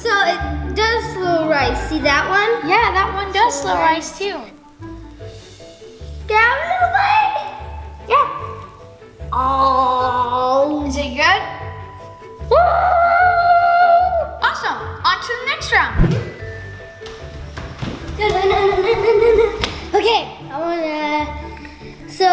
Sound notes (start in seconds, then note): 0.0 laughs; 12.8 yelling